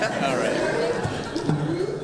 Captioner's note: audience laughter